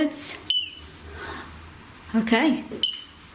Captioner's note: beep